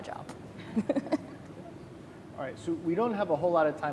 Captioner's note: laughing